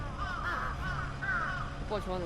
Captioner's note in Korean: 마치 애니 같은 까마귀 소리